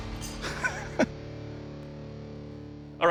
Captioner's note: laughs